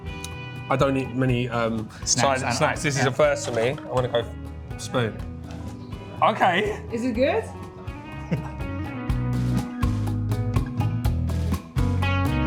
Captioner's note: grunts